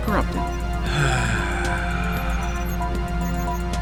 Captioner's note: Lumbar sighs for a long time